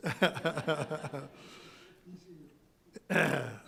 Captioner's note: laughs